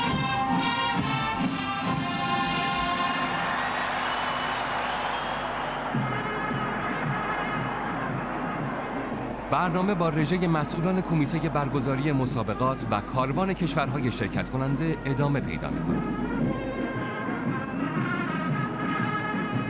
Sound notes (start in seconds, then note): 2.5 applause